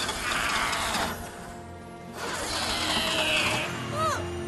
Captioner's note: engine sputtering; straining